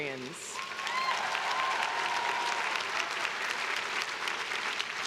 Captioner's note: crowd cheering